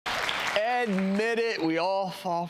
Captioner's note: clapping